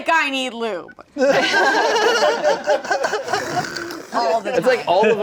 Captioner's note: everyone laughing